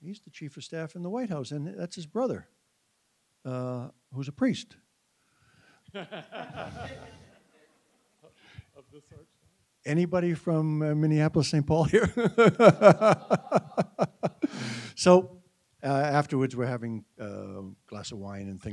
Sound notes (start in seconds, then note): 6.0 audience laughing; 11.9 laughing